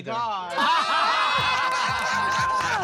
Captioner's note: chuckles